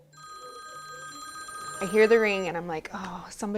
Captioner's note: phone ringing